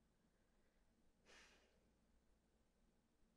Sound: contemplating sigh

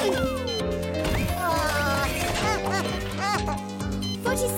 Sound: grunting in effort; crying

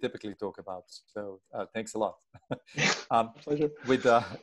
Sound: chuckles

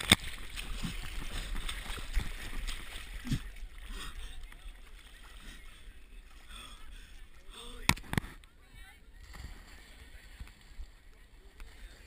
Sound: jumped into water and swimming

